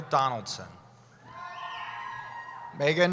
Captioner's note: cheering